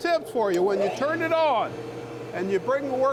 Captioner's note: machine whirring